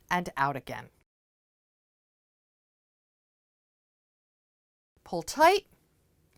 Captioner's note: no Sound Present